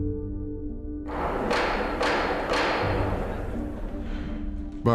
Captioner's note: gavel pounding